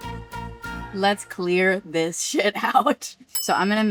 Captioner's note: light bouncy music; bell dings